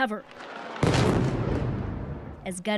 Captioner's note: speaking alternate language